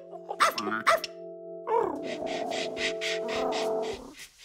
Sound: electronic piano; barking

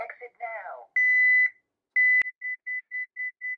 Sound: beeping

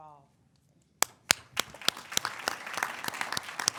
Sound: claps

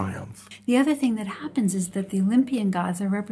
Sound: voiceover

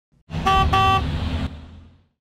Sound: bus honking

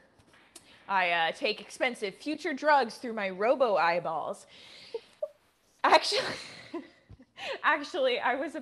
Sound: laughter

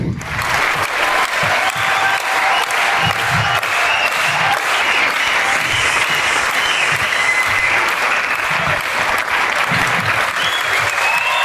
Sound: applause and scream

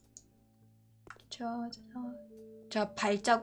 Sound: humming

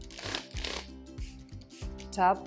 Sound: spritzing

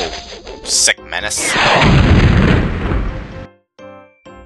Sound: missile blast

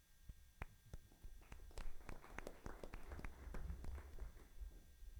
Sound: all applauding

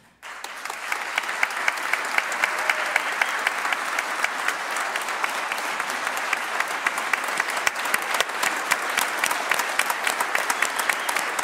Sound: applause

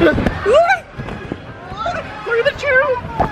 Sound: inflatable ruffling; both yell

